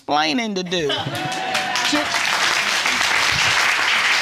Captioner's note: audience applauding and cheering